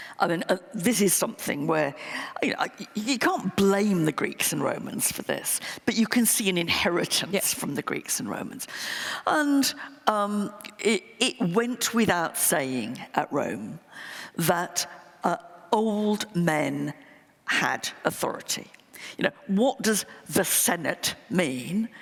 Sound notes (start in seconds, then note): none